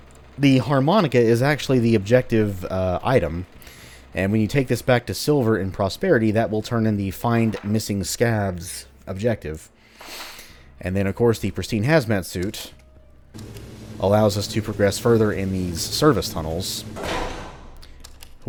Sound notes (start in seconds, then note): 8.3 journal opens; 9.7 journal closes